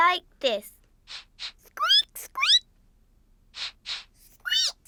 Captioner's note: sniffs and squeaks; both sniff and squeak